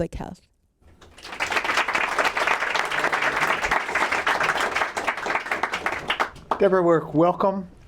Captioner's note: applause